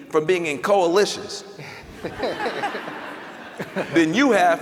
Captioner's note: laughter